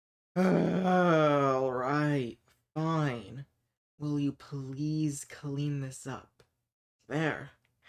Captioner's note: heavily exaggerated sigh